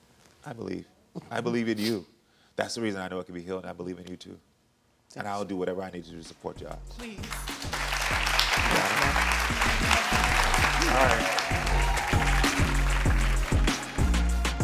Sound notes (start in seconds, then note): 7.2 audience applauds; 8.5 murmurs; 11.8 upbeat music